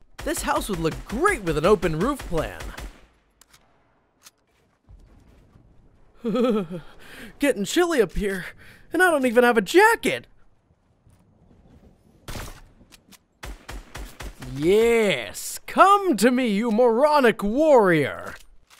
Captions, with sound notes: This house would look great with an open roof plan. (shivers) Getting chilly up here, and I don't even have a jacket. Yes, come to me you moronic warrior.